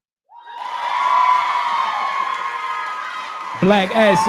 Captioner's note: cheering